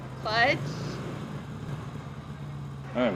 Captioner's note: none